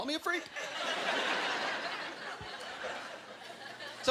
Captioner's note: laughter